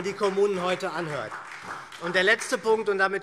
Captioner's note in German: Beifall SPD